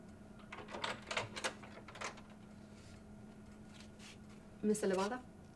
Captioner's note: door latch clicking